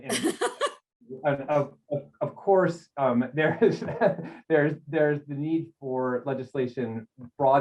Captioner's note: laughter